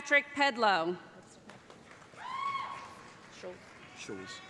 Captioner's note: applause